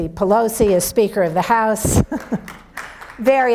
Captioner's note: audience applauds